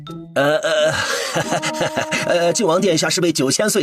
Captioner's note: groans